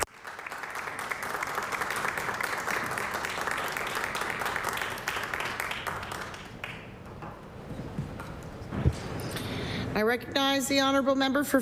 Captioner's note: applause